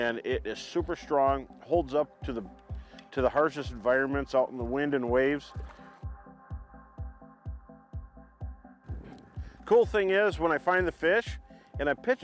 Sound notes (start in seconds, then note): 5.8 water splashing; 6.6 upbeat music continues